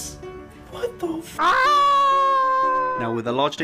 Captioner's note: very ridiculous screaming